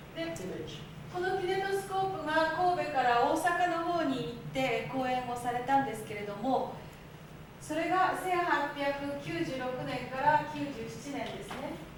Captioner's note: speaking Japanes